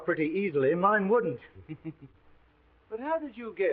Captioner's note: Sherlock chuckling